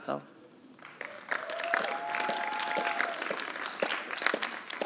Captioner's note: applause